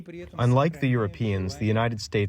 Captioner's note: through translator